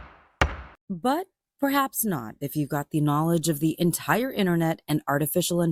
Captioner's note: gavel banging